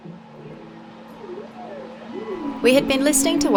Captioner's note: whales call